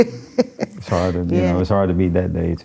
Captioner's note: laughing